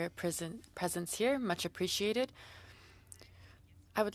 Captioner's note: speaking French